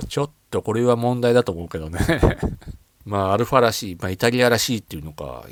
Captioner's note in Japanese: 笑い